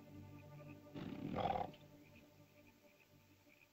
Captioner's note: bird caws; ominous music; animal growls